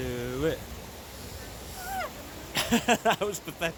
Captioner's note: winces and laughs